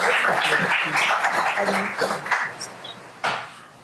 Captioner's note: applause